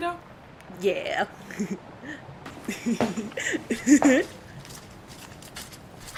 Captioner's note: giggling